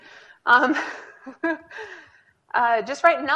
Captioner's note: laughing